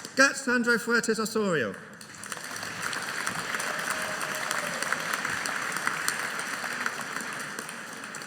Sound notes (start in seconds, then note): 2.0 audience applauding